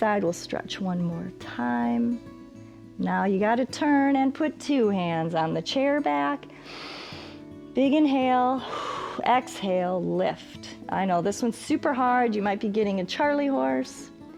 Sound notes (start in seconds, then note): 6.5 exhales; 6.5 inhales